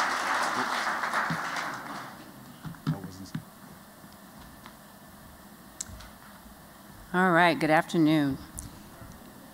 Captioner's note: �applause�